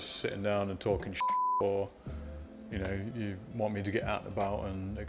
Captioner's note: beep